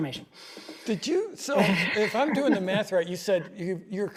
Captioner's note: laughs